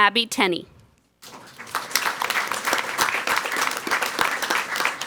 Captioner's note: people clapping